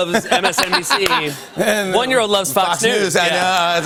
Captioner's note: laughter